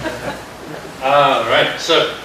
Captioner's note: laughter